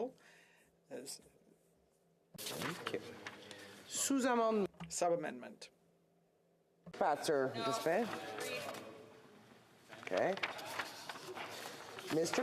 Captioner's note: speaking french